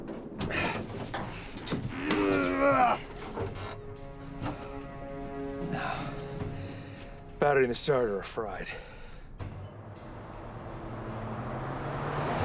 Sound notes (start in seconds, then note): 1.3 moan